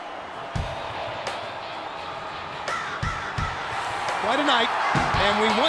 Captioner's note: crowd cheering